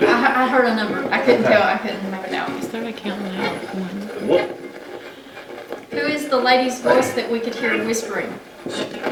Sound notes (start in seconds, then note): 4.9 radio channel changing; 8.9 radio channel changing